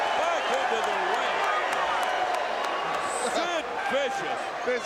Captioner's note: applause